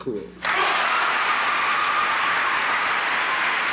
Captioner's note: applause and cheers